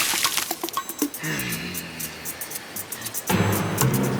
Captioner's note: sighs